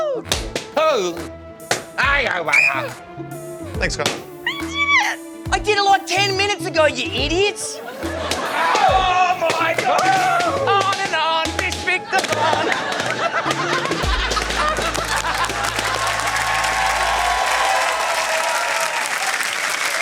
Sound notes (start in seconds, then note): 1.6 blows whistle; 2.0 murmurs; 7.9 balloons pop; 12.0 laughter; 16.3 cheering, applause